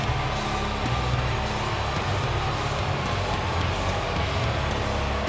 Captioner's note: audience jeers